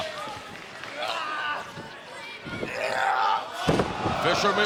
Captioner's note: wrestlers shouting